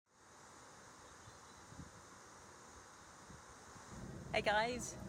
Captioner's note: nature sounds